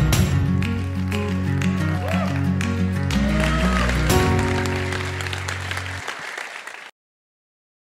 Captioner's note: applause